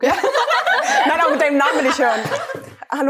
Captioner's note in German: Gelächter